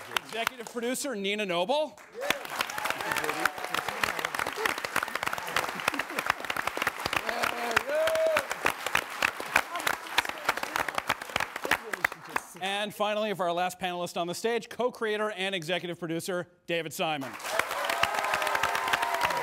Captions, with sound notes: -Executive producer, Nina Noble. -(AUDIENCE APPLAUDS) (CAST CHEERING) And finally, for our last panelist on the stage, co-creator and executive producer, David Simon.